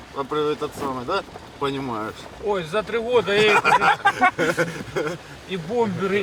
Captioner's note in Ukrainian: сміх